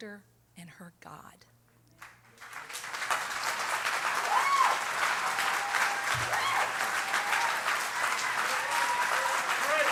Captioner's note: applause